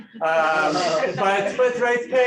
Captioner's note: laughter